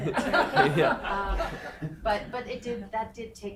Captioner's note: everyone laughing